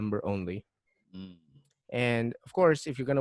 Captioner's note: patronizing "hmm"